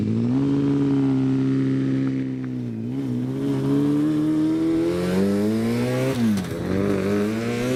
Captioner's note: engine idling; engine humming; engine revving